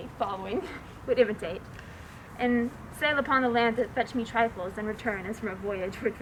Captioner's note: none